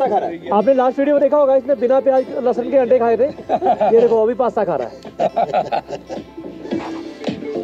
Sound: everyone laughs again

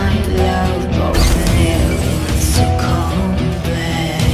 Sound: mystical light noises

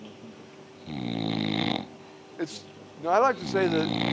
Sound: snoring

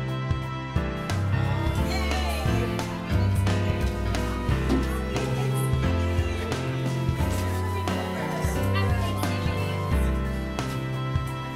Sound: murmured farewells and holiday wishes

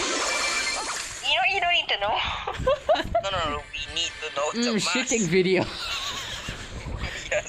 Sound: laughing

